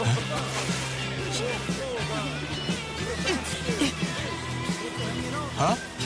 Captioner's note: surfer laughing